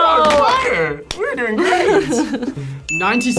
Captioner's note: laughs